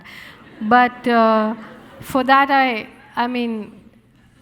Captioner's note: audience laughing